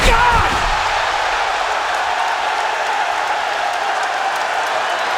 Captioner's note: crowd roars